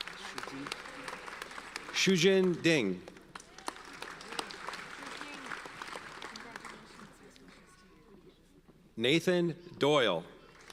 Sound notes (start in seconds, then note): 0.0 audience applauds; 10.5 audience applauds